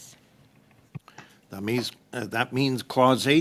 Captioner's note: speaking French